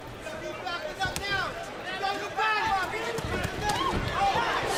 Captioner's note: corners shouting